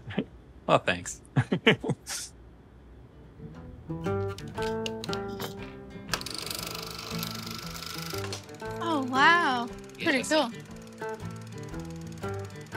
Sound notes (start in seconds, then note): 2.6 laughs; 3.4 gentle guitar strumming; 6.0 film reel gently clicking